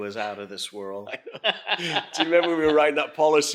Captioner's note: laughing